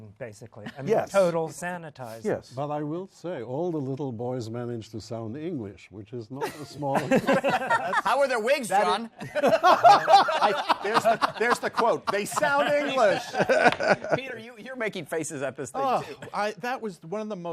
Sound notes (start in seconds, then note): 8.0 laughter; 9.2 laughing